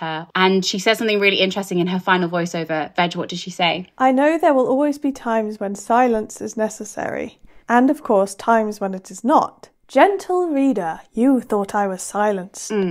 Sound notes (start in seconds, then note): none